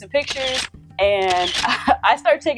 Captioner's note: camera clicking